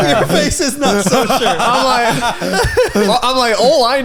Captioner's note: laughing